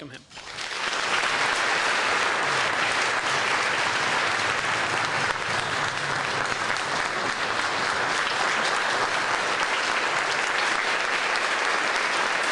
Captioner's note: applause